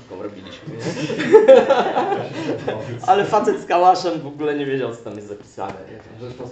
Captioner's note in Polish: śmiech